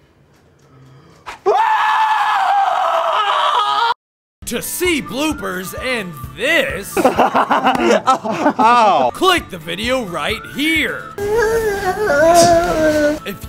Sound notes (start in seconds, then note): 1.3 screaming